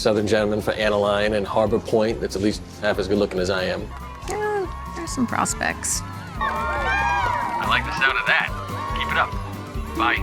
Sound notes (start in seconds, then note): 6.5 cheering